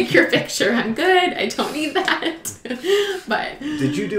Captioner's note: laughs